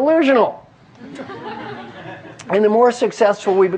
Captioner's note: laugh